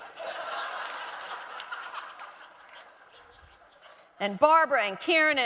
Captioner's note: audience laughing